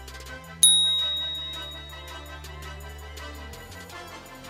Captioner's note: bright chiming